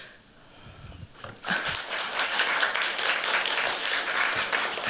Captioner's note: applause